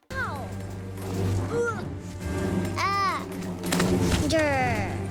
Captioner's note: characters grunting and yelling